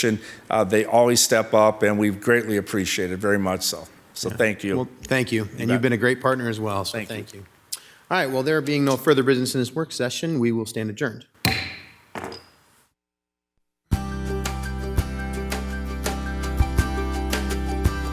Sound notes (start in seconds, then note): 11.4 gavel tapping; 14.0 upbeat music